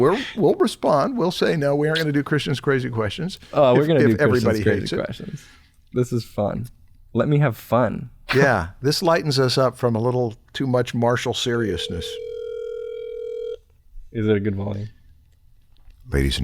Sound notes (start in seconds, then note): 11.7 phone ringing